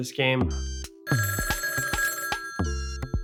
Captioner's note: phone rings